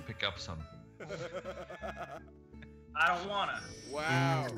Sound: laugh

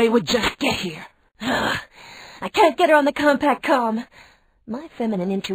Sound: groans

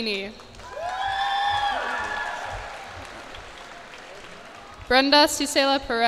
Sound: cheers and applause

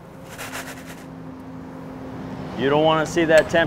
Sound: ice shaking

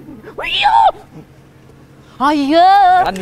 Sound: screams in realization

